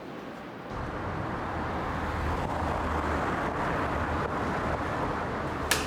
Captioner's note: traffic sounds